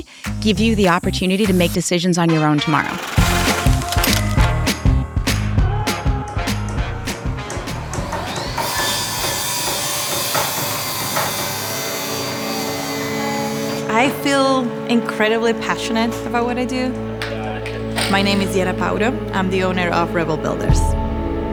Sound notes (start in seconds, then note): 7.5 power tools whirring